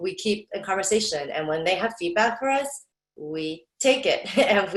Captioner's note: laughs